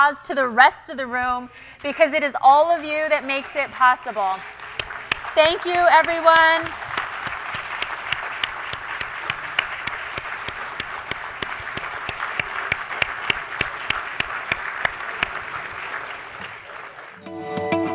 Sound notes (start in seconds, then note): 4.4 applause; 6.7 applause; 17.7 applause and music playing